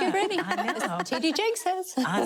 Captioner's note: laughing